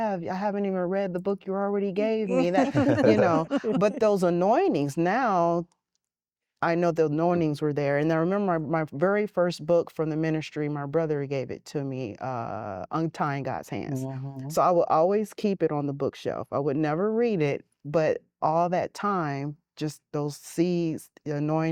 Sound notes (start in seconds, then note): 2.3 laughter